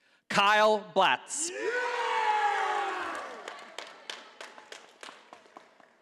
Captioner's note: audience applauding